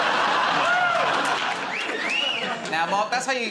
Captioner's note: laughter; wolf whistles